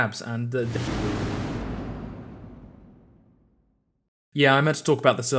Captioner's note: whoosh